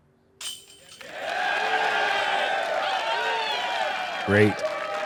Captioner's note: cheering